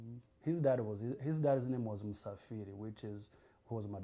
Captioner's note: non-english